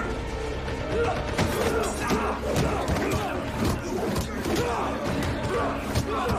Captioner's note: all grunting